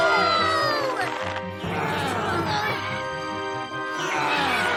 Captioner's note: grunting